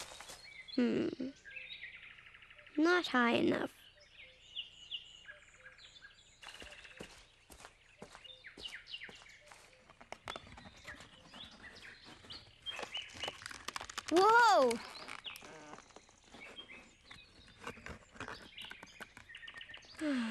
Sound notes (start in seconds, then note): 12.4 branch crackling